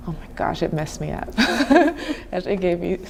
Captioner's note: chuckling